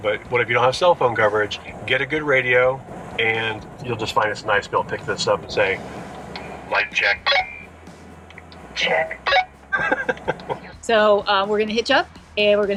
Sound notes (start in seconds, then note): 7.3 beep; 9.2 beep; 9.7 laughing